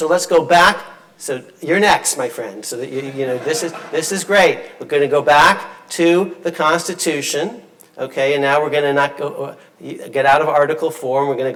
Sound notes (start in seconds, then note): 2.9 audience laughing